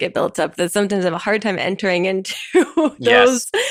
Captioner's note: chuckles